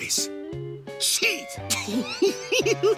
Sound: giggling

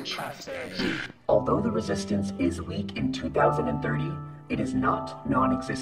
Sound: metallic Voice Over

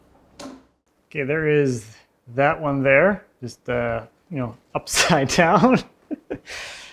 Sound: laughs

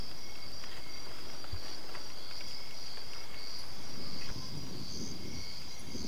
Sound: crickets chirping

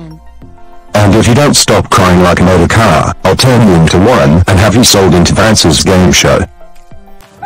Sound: imitates Lamar's dad

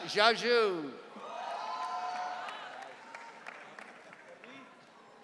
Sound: audience cheering

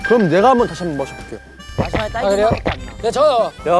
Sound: chugging

